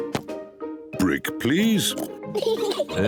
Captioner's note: both laugh